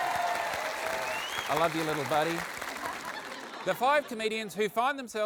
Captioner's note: applause